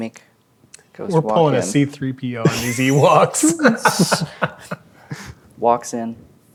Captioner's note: laughing